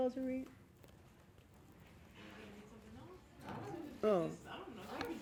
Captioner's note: audience members speaking